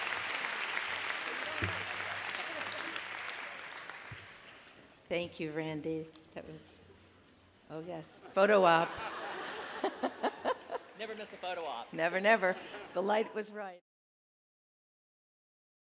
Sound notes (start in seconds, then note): 0.0 applause; 8.6 laughter